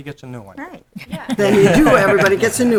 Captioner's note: laughing